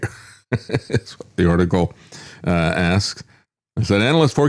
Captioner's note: laughs